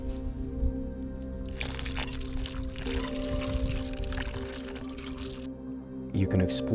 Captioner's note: sound of water pouring